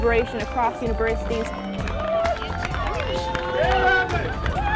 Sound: cheering

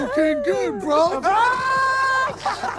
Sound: screaming; contestants and laughing

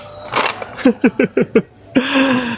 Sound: laughs

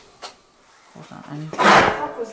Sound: metallic clanging

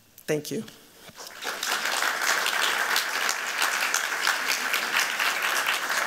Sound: applause

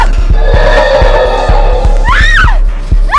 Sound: roaring; screaming

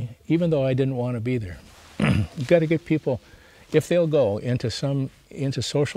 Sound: clears throat

